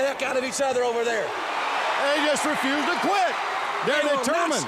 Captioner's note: crowd cheering